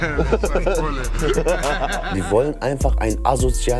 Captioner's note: Lacht